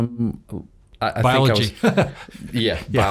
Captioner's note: laughs